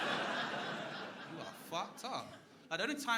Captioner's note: crowd laughing